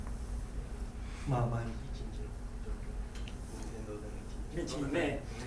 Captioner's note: speaking in foreign language